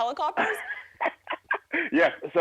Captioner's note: laughs